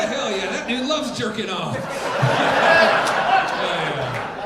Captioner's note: audience laughing